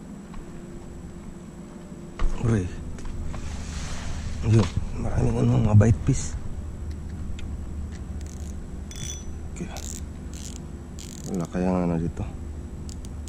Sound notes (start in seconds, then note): 8.9 reel adjustment sound